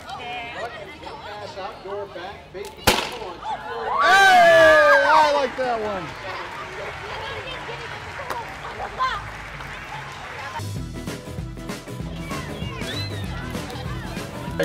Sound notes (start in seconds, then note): 2.8 confetti bang; 5.7 crowd cheers and applauds our awesomeness because we rock…; 10.5 upbeat country music playing